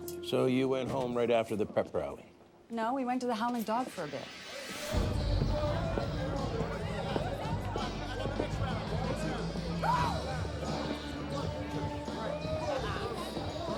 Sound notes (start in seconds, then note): 5.4 rock music plays; 7.6 indistinct singing, conversations